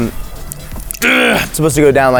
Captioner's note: grunts